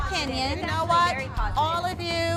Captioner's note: chatter